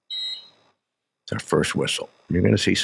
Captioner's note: whistle blows